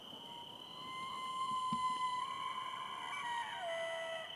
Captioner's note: elk bugles